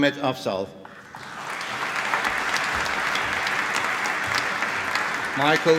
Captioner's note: applause